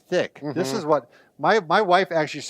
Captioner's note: hums